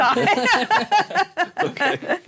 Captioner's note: laughing